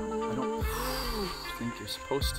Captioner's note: background chattering in Mursi; breathes out heavily